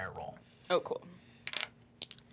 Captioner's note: dice clacking